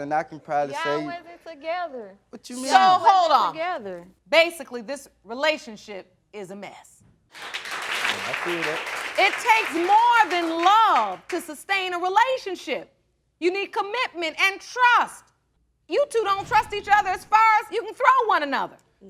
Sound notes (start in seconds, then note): 7.3 audience applauding